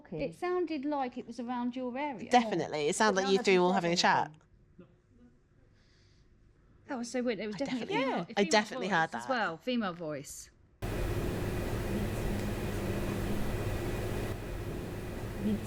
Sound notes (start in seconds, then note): 10.8 static hums